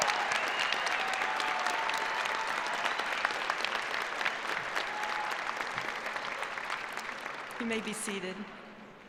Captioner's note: applause